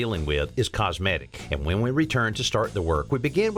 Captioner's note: none